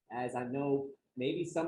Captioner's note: none